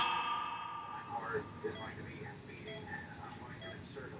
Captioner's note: medical machines beeping